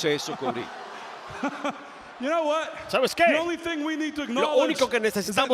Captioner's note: laugh